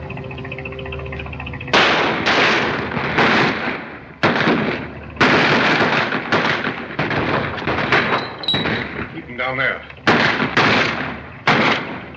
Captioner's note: intense gun fight